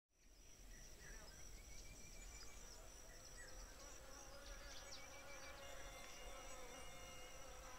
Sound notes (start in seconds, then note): 0.2 chirping; 3.4 buzzing